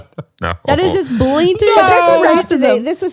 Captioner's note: laughs